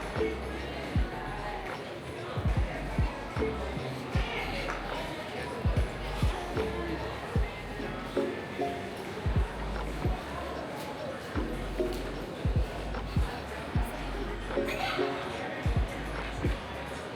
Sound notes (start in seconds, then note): 6.2 children chattering